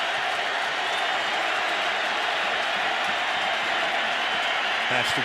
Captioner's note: cheering